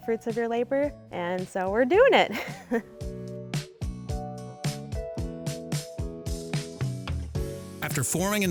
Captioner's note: chuckling; upbeat music